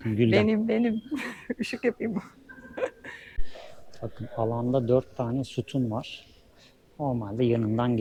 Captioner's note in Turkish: kahkaha